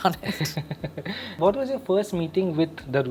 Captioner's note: laughs